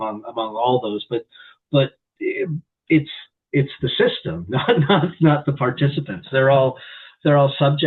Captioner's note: chuckles